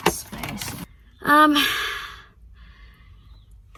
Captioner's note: sighs and takes a breath